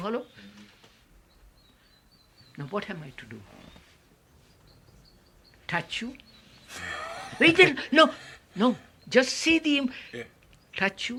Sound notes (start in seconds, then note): 6.7 laughter